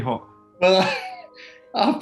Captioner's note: laughs